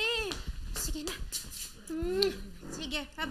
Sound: kisses

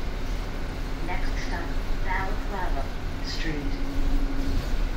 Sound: bus announcement

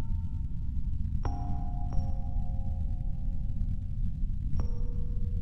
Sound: rhythmic soft bells continues

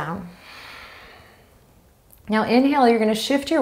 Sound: exhaling strongly

